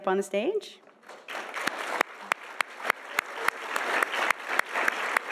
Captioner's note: audience applauding